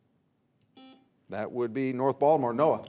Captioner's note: buzzer beeps